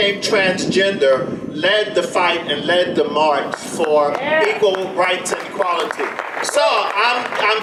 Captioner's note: audience applause